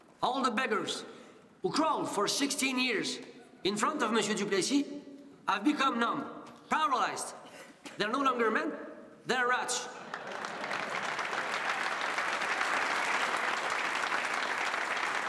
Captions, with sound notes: All the beggars who crawled for 16 years in front of Monsieur Duplessis have become numb, paralyzed. They're no longer men. They're rats. (audience laughs and applauds)